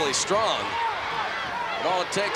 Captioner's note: crowd cheering